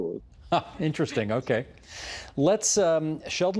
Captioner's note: laughter